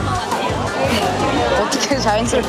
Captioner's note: laughs